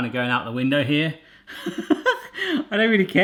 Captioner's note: laughs